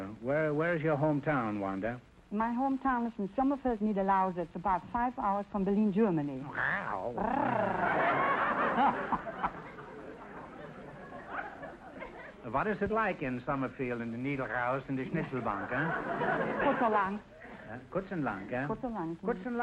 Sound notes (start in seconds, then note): 6.4 purring; 6.5 playful meow noise; 7.2 audience laughter; 16.5 speaking German; 17.9 Groucho speaking German